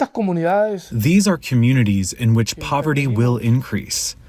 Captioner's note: through translator